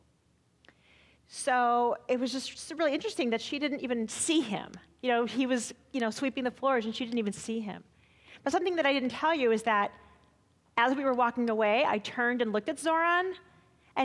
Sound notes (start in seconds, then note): none